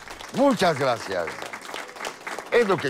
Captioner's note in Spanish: Aplausos